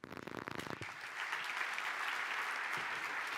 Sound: applause

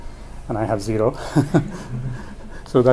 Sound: laughs

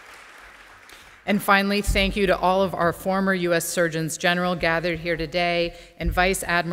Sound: applause

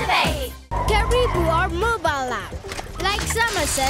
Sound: tires screeching

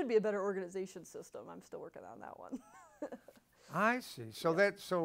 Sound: laughs

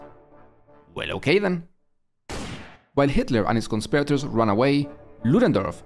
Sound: shooting

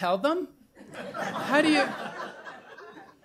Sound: laughter

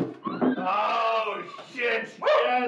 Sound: lamb screaming

